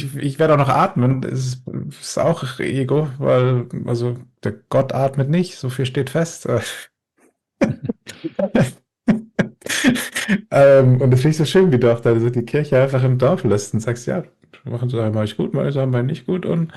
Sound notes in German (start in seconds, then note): 9.1 gelächter